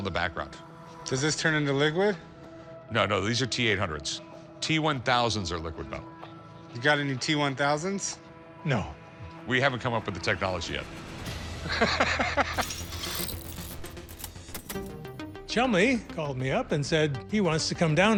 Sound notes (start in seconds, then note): 11.7 laughs; 12.9 dramatic music